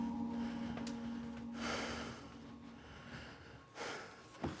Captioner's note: ragged breathing